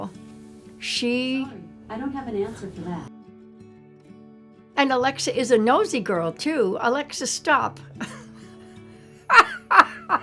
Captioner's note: laughing